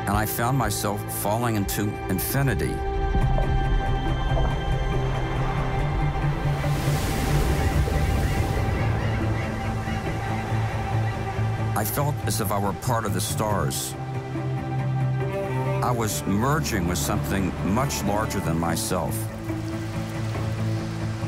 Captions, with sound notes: and I found myself falling into infinity. (uplifting music) (waves crash) (birds chirping) I felt as if I were part of the stars. (uplifting music) I was merging with something much larger than myself. (rain pattering)